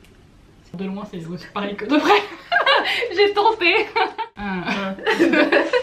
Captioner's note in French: rires